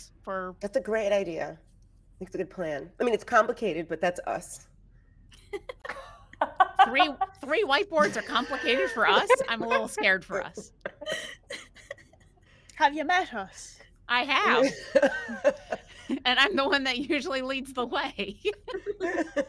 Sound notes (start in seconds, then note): 5.4 people giggling; 14.6 people chuckling